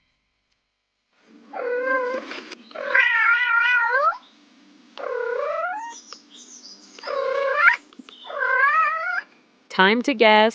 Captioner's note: animal Sound